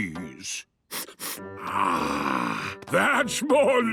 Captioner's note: sniffs